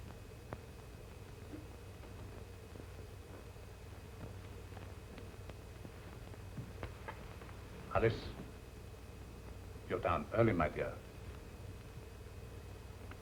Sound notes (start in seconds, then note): 2.0 stairs creaking